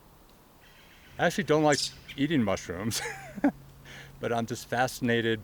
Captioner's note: laughs